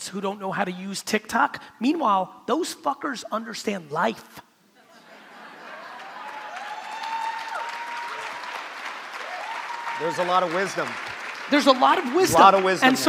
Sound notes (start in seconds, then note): 5.2 crowd cheering; 5.6 crowd clapping